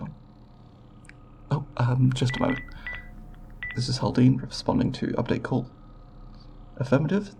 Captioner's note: beeping